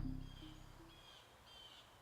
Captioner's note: creepy music ends; bird chirps